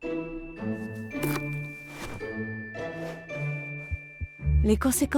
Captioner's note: upbeat music; pickle crunching; heart beating